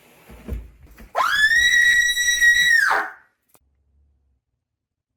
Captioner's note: Delia screaming